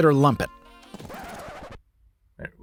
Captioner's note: record scratch